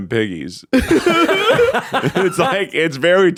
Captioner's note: all laughing